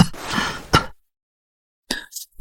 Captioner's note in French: Tousse